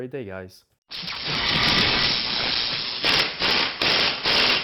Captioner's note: drill engine roaring